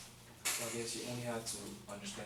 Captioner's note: voiceover